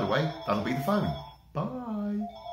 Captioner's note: phone rings off camera